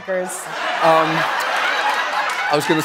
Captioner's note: laughter